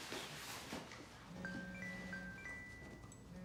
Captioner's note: phone rings